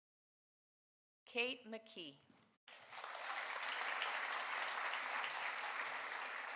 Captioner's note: audience applauding